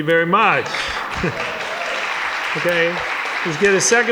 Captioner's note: audience applauding